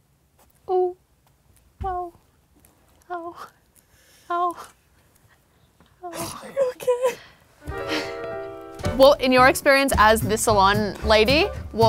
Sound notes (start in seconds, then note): 6.1 laughing